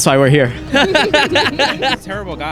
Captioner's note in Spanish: Todos ríen